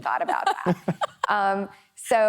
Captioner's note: laughing